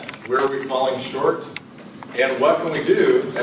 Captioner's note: none